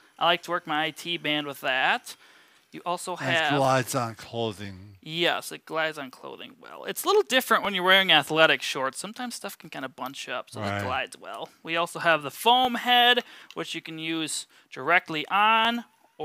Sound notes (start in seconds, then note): none